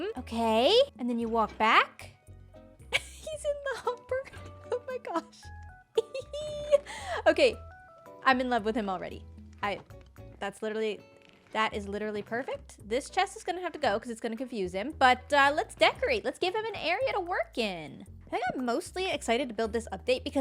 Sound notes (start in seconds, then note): 2.9 laughs; 5.9 giggles